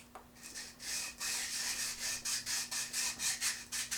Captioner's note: scratching